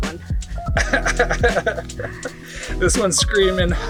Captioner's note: he laughs